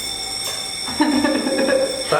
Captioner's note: sobs